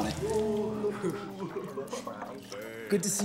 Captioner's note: boys laugh and jeer